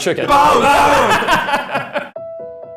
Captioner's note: laughing; soft music